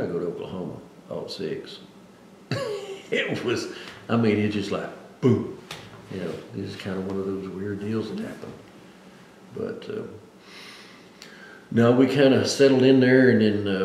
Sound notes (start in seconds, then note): 2.5 laughs